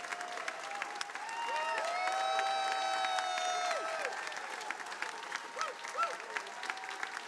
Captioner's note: attendees applauding